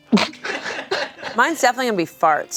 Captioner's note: everyone laughs